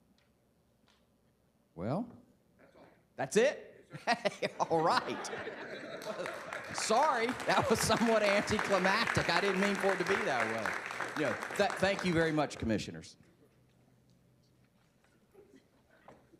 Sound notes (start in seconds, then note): 10.0 applause